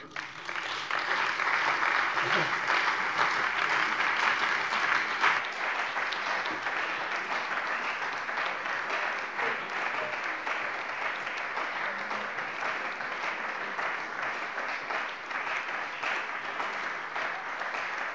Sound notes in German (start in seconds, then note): 2.0 Anhaltender Beifall bei der CDU und dem BÜNDNIS 90/DIE GRÜNEN